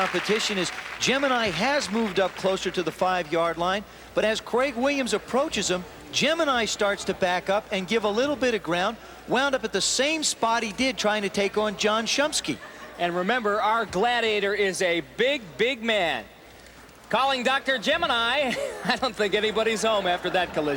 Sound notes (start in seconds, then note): 18.4 chuckling